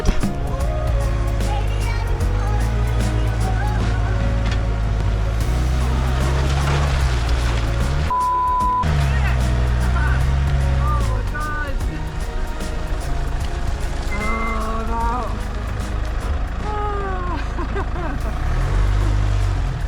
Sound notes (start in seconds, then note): 9.7 laughing